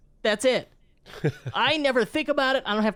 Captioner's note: chuckles